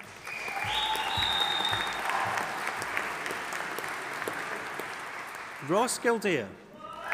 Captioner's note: audience applauding and cheering